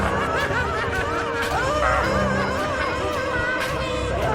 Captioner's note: Karen laughing